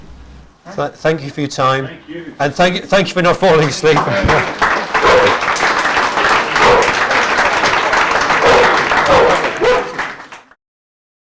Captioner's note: applause